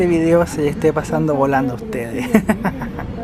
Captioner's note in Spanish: risas